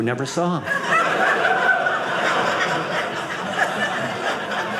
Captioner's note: audience laughing